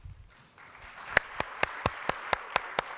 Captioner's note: applause